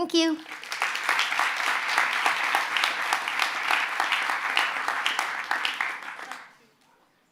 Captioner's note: applause